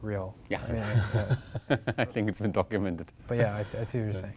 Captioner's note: laugh